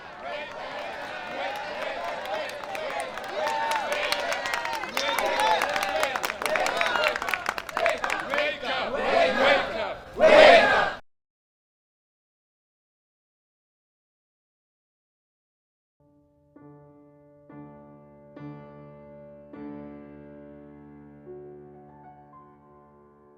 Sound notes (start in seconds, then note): 0.2 crowd; 3.5 clamoring intensifies; 6.3 crowd